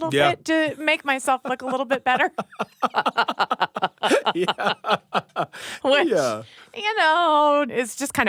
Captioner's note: laughter